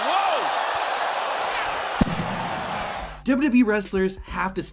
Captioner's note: crowd cheering